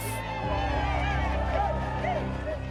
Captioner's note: cheering